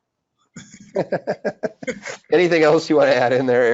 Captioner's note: laughing